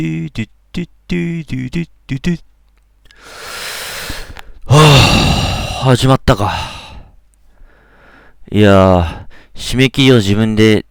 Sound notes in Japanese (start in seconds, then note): 4.6 溜息